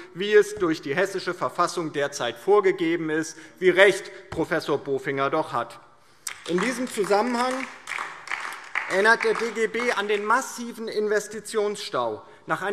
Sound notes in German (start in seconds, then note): 6.2 Beifall DIE LINKE